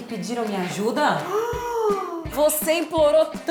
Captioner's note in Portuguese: suspira